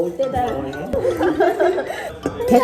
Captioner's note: in a cutesy tone